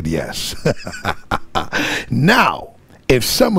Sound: laughing

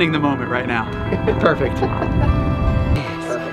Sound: laughing

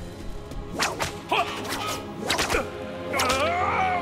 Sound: grunting

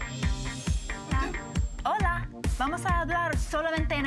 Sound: foreign language

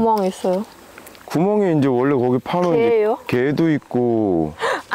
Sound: laughing

